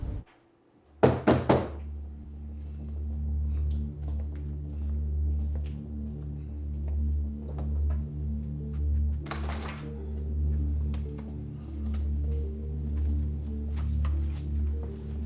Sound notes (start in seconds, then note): 1.0 loud knocking; 1.5 tense music; 11.4 tense music continues